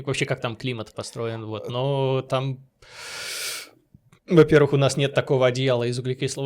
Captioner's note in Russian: тяжело вздыхает